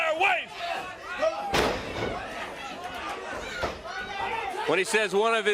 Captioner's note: crowd chatter